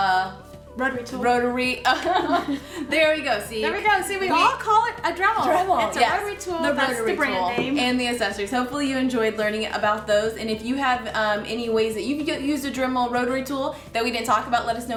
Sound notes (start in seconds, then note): 1.9 laughing